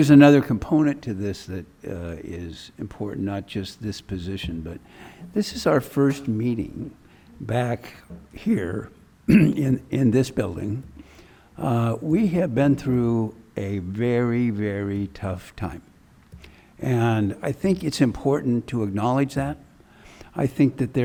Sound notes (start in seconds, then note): 9.3 clears throat